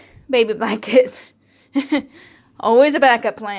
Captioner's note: laughing